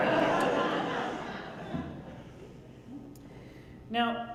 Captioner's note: crowd laughs